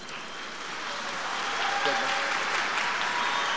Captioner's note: applause